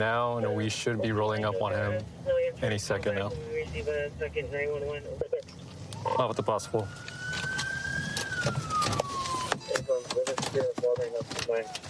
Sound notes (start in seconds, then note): 5.9 sirens blaring